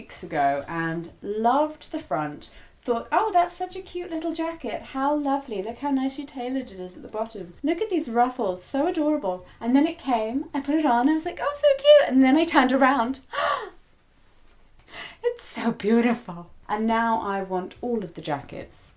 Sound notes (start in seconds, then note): 13.3 excitable gasp